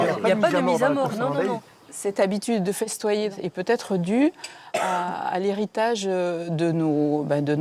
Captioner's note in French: raclement de gorge